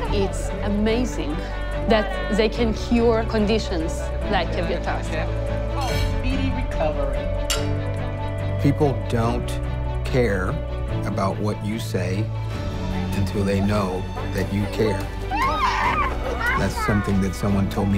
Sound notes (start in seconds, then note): 0.0 mumbles; 7.4 glasses clank; 16.4 exclaims